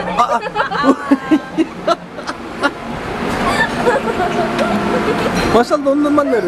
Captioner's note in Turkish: Kahkaha sesleri